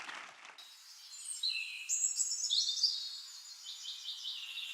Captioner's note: birds chirping